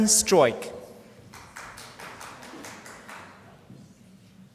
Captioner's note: applause